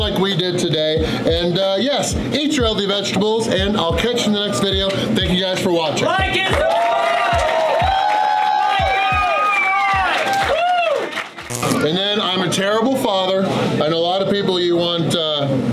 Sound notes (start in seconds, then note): 6.7 crowd; 8.1 crowd cheering